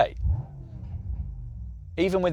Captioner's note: engine revs smoothly